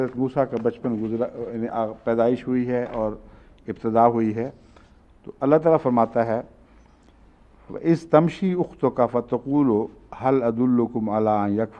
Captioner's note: Arabic